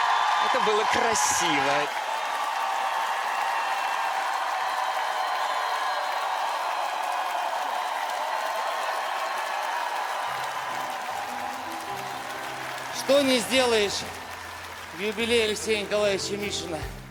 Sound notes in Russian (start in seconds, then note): 1.9 ликование; 6.6 аплодисменты